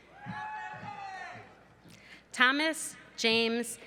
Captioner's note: cheering